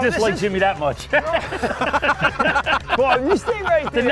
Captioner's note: everyone laughs